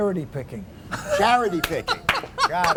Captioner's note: laughter